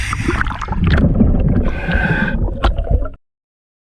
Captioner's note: water gurgles